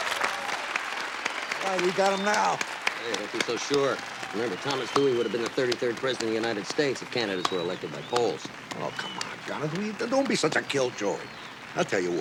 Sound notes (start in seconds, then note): 7.0 applause